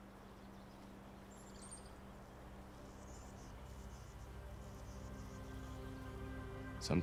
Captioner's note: birds chirping; slow, somber music